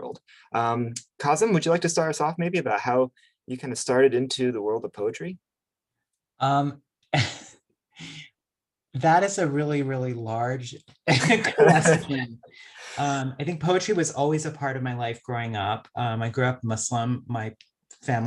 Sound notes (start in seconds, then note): 7.2 chuckles